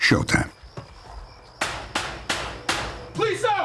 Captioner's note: knocking